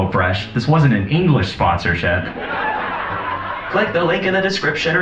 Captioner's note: laugh track